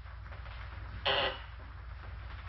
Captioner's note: doorbell rings